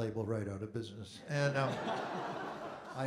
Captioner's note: audience Laughing